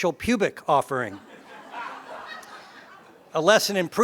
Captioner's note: laugh